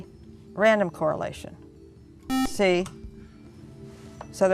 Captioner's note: buzzer